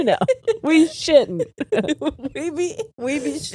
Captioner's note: all laughing